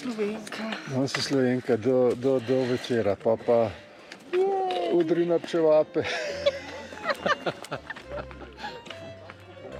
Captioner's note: laugh